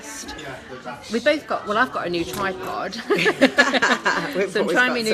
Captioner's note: laughing